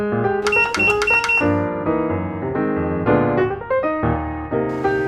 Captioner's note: click 4 times in a row